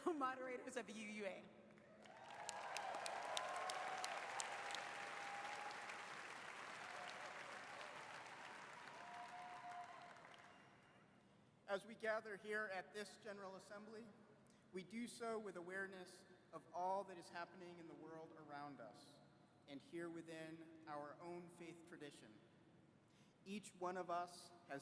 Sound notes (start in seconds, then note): 4.7 applause